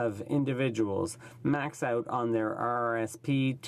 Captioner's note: speaking French